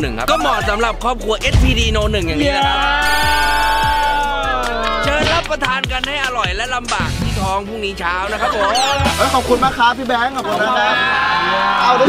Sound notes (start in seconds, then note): 2.5 cheering; 2.7 applauding; 8.0 laughs